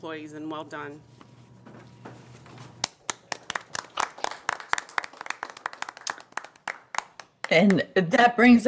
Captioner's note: applause